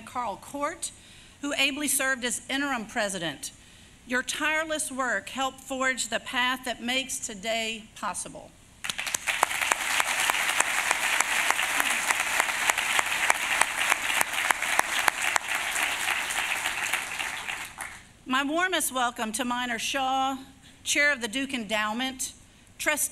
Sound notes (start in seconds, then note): 9.2 applause